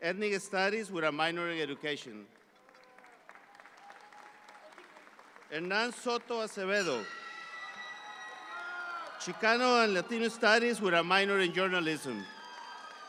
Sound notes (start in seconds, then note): 2.2 audience claps; 7.5 audience applauds; 12.8 audience applause continues